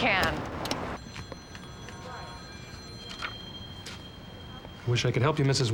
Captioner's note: telephones ringing